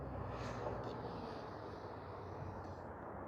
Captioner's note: wind